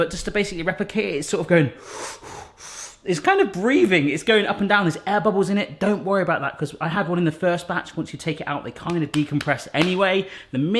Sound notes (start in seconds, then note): 1.7 heavy breathing